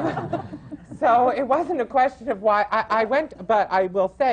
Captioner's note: laughter